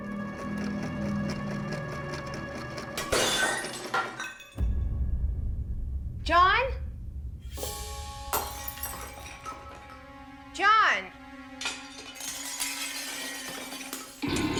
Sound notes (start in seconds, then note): 0.3 sewing machine tapping; 3.0 ceramic shattering; 8.2 ceramic shattering; 11.5 ceramic shattering; 14.2 ominous music